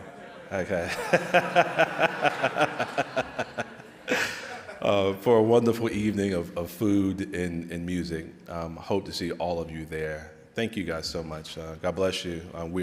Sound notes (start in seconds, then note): 0.0 audience laughing; 0.1 laughing